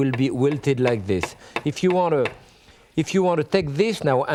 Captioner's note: knife chopping